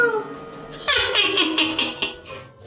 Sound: laughing

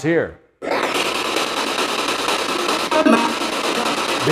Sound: static signaling

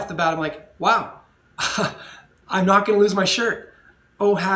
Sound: laughs

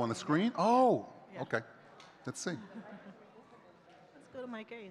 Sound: chuckles

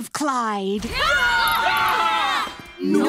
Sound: screaming

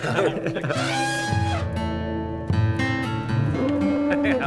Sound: chuckles; elephant trumpeting

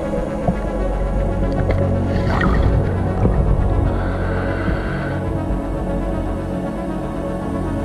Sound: tranquil music rising; oxygen tank whooshing

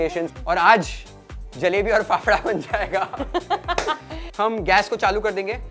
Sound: laughs

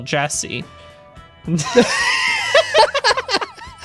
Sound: laughing

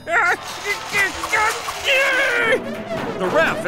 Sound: grunting

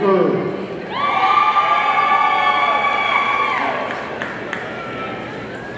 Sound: audience cheering

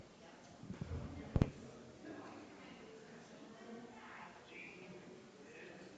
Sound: people chattering distantly continues

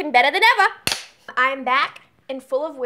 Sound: clapper claps

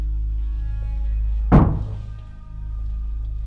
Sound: bang

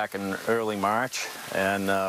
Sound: nats rain

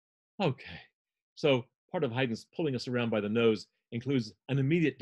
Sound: sighing

